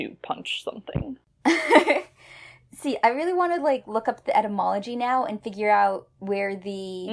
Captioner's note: laughs